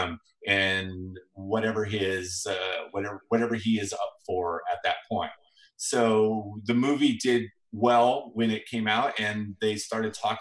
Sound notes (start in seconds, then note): none